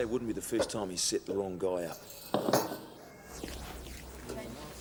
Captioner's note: none